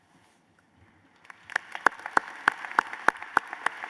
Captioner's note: applause